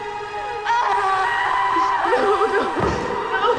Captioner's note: dramatic music; screaming